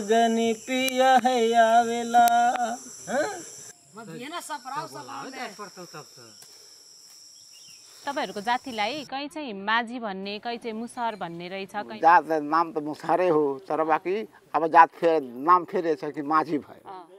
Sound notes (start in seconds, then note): 3.4 people Whispering